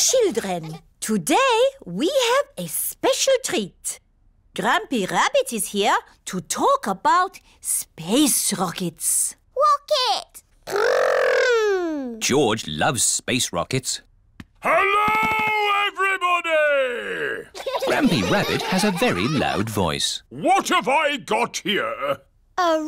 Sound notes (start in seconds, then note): 14.7 shouts; 17.5 laughter